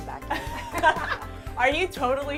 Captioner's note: laughter